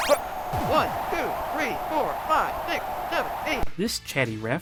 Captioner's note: game audio